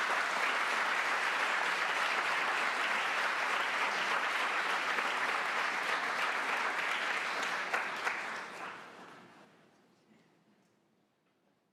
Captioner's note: applause